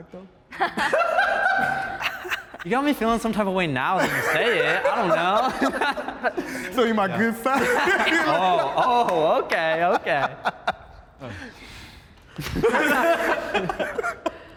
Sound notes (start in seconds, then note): 0.6 laughs; 7.4 laughs